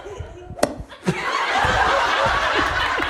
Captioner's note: golf club thumps mushroom; audience laughing